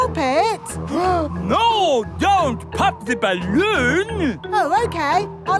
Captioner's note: gasps